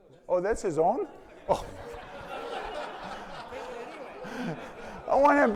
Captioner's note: audience laughing